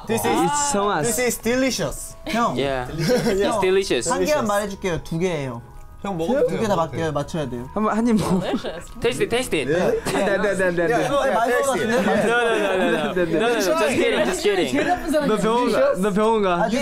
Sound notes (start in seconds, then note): 2.9 chuckles; 4.7 speaking Korean; 8.1 laughs